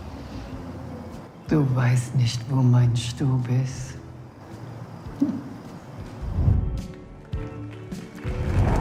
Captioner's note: laughs